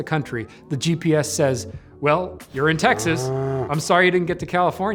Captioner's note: cow mooing